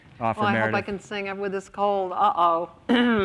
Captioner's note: coughs